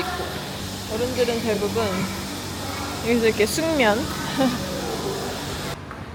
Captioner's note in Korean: ㅋㅋ